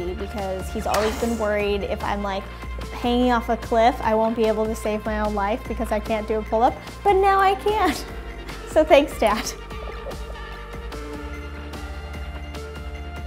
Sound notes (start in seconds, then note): 9.3 laughs; 10.6 upbeat music